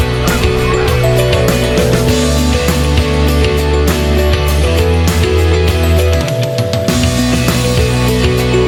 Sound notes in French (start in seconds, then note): 0.3 Sons des outardes